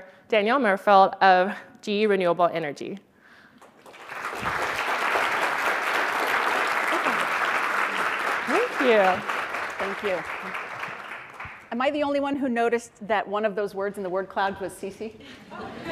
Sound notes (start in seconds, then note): 3.6 audience applauding; 15.3 audience laughing